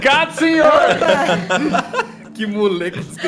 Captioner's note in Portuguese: Todos riem